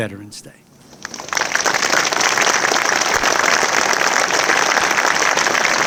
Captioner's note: audience applauding